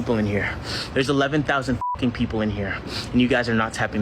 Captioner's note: beep